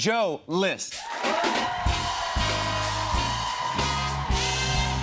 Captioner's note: cheers and applause